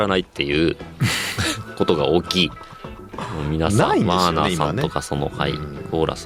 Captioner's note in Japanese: 笑い